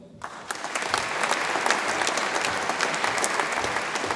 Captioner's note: audience applauds